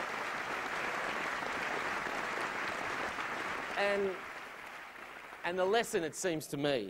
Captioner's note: applause